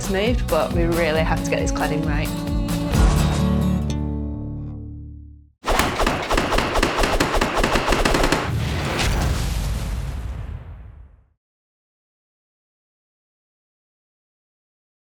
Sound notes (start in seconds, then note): 5.6 whoosh